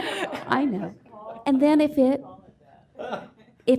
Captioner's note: laughter